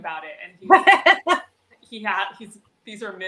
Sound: laughs

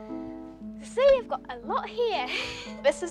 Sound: laughs

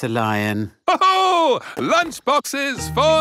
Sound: laughs

